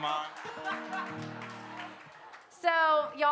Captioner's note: laughs